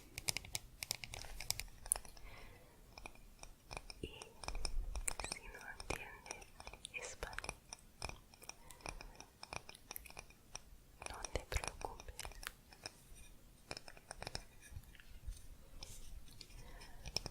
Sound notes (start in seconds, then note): 1.3 tapping on stone; 9.4 tapping on stone